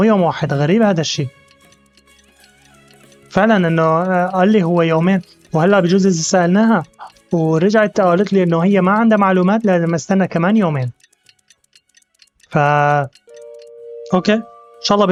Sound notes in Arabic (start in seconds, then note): 0.0 دقات الساعة; 4.9 دقات الساعة; 6.9 رنين جرس الباب